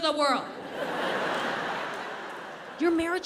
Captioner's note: audience laughs